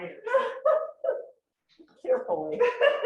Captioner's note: laughing